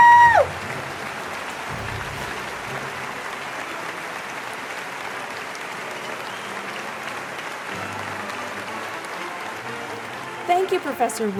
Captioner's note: applause